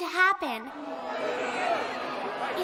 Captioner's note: spectators murmur